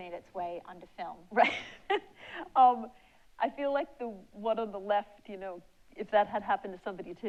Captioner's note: laughs